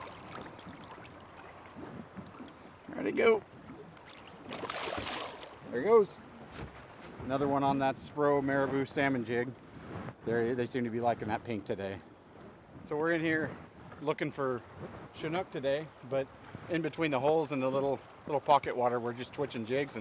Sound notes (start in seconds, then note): 5.4 fish splashing